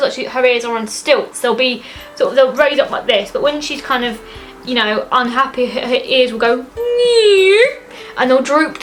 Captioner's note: drooping noise